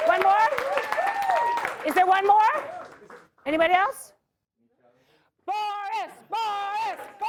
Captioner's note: applause